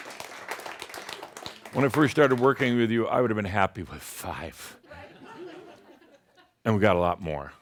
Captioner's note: a couple of Shaumbra say “Wow” and some applause; some chuckles